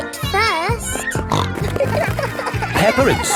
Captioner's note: snorting